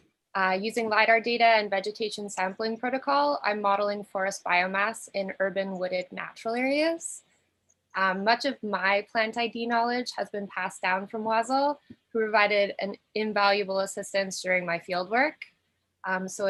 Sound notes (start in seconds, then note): none